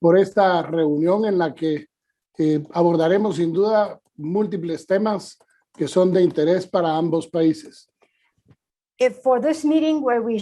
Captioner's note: foreign language